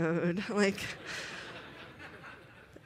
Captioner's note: laughter